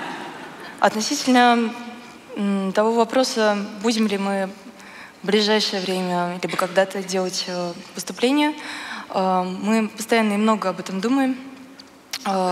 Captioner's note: foreign Language